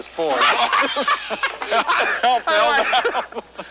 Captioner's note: both laughing